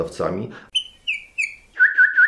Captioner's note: whistling